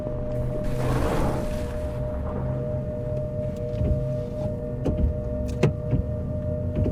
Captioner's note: static bursts